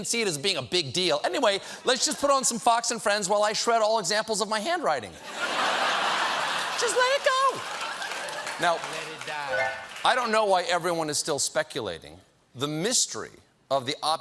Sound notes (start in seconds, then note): 5.2 laughter; 9.5 piano riff